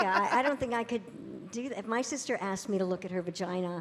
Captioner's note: audience cheering